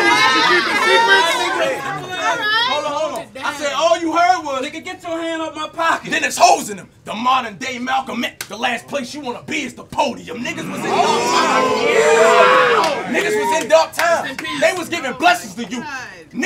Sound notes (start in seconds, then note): 12.0 audience yells